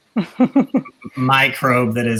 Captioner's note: laughing